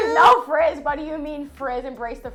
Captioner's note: laughs